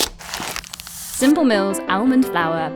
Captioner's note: cardboard tearing; paper crinkling